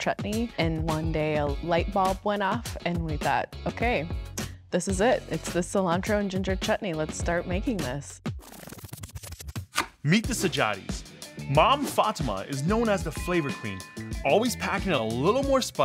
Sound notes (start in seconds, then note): 8.1 tape whirring